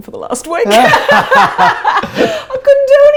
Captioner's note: both laugh